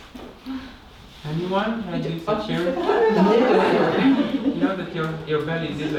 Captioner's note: laugh